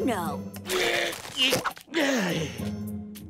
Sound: grunting

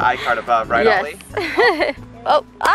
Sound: laughs

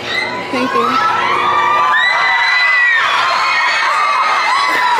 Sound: wholesome screams

